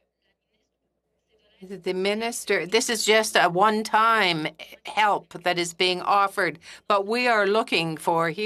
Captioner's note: speaking French